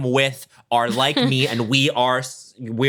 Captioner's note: chuckles